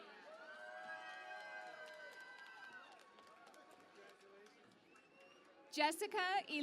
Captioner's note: cheering and Applause